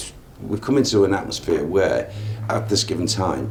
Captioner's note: none